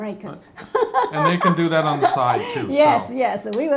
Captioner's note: laughs